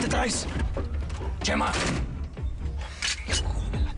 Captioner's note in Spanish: Portazo